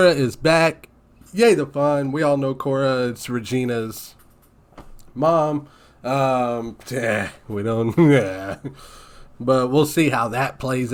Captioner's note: sighs